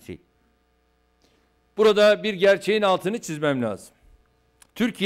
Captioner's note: non-english speech